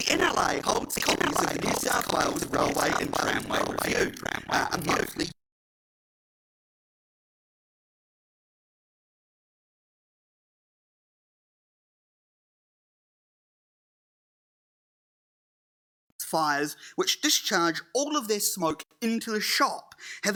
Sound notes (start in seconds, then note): 0.0 audio distorts; 1.0 laughing; 5.6 audio distorts